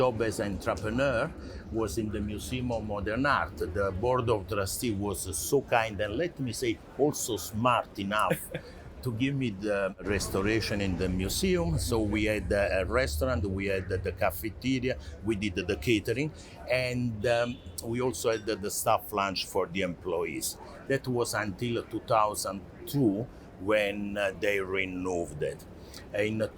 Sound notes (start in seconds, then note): 8.1 laughs